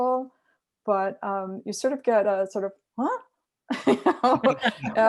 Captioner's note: laughs